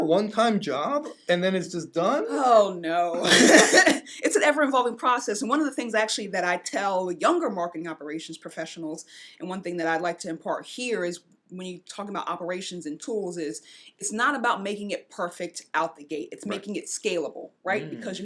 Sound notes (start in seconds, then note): 3.1 laughs